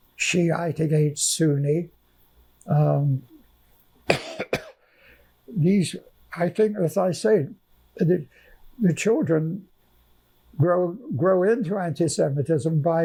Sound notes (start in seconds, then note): 4.0 coughing